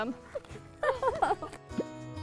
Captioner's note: laughter